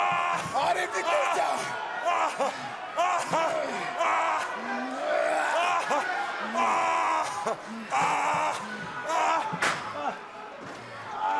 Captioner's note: screaming